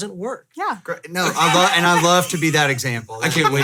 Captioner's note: laughing